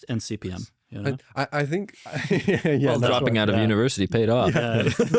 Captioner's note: laughs; laughs